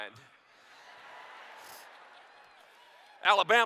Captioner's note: laughter